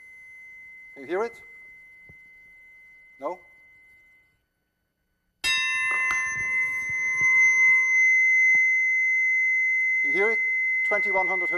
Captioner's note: bar chimes, tone oscillates; bar chimes, tone oscillates again